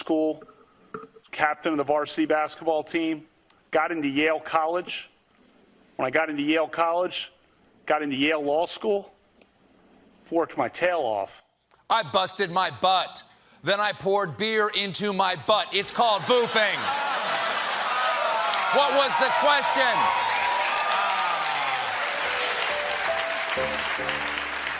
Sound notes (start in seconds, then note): 15.8 laughter; 22.2 piano riff